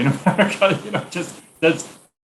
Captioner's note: laughing